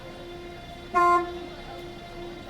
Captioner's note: honk